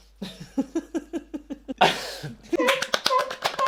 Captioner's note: laughter; applause